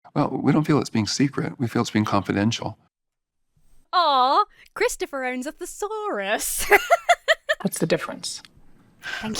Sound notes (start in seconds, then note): 6.5 laughs